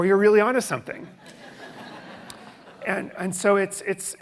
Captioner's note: audience laughing